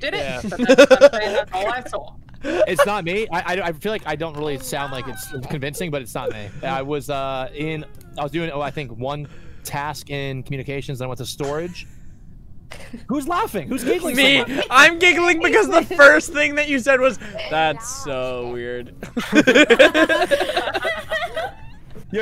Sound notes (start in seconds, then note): 0.1 laughter; 4.7 laughter; 12.0 laughter; 19.0 laughter